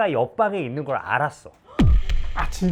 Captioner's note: shock